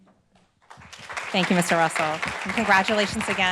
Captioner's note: group applauds